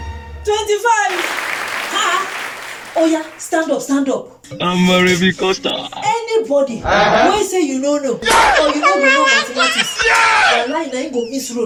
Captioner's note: screaming